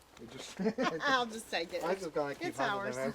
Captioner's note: laughs